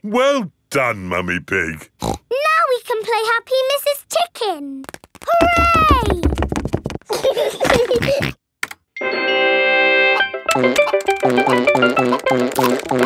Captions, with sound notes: Well done, Mummy Pig! (SNORTS) Now we can play Happy Mrs. Chicken! Hooray! (GEORGE GIGGLES AND SNORTS) (VIDEO GAME MUSIC PLAYS)